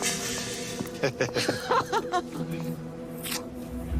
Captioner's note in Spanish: Risas